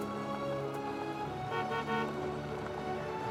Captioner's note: car horn honking